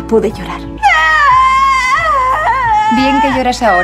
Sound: crying

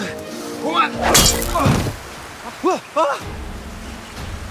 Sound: smashing sound

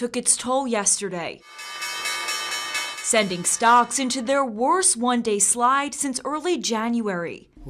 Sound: sound of closing bell at NYSE

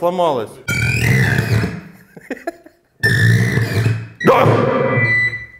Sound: still trying the whale song

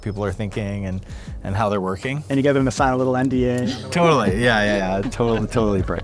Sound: laughing

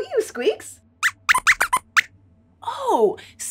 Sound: squeaks squeaks

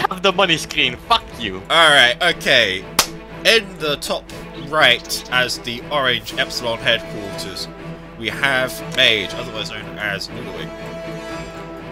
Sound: claps

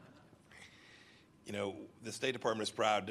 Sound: laughter

